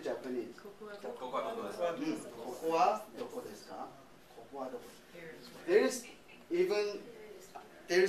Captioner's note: speaking japanese